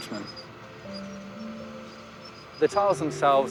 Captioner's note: squeaking and rumbling of machinery